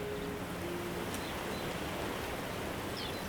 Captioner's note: birds chirping